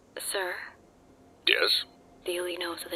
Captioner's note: none